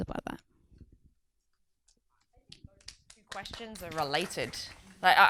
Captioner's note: audience applauds